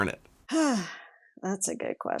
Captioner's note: sighing